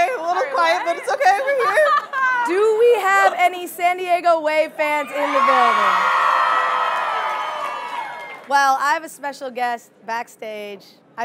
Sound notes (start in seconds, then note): 5.2 audience cheering